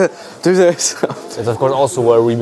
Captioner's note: laughs